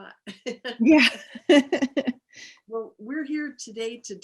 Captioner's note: laughs